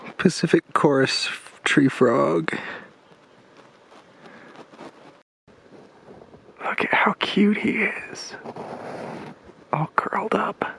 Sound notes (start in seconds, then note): 6.5 stage whisper